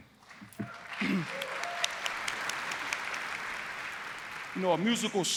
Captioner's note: applause